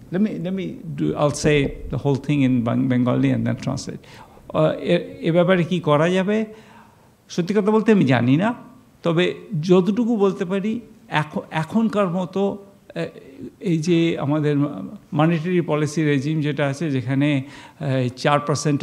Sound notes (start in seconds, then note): 4.7 speaking bengali